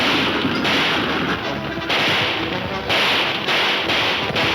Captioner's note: gunshots banging